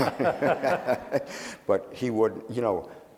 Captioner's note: laughing